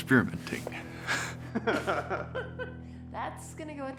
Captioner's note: laughing